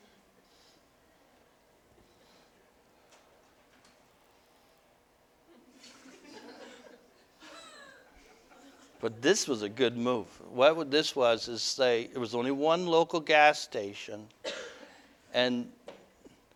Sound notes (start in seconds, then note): 5.8 audience: Laughter